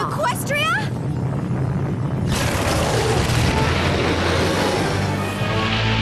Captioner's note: rumbling and crash